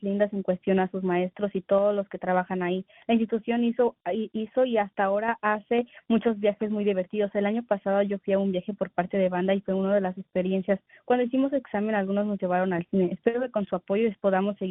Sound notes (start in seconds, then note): 2.4 speaking in spanish